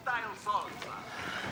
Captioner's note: on TV